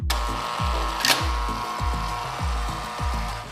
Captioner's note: door buzzes